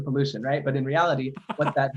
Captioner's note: laughing